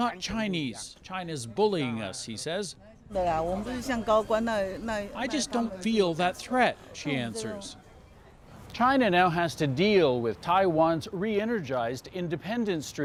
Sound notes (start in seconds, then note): 2.4 speaking foreign language